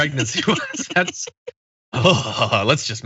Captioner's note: laugh